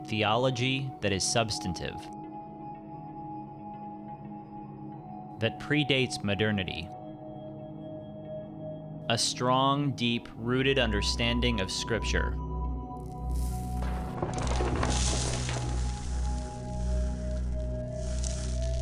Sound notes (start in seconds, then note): 13.1 stones and dirt crashing